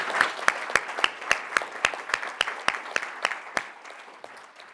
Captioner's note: applause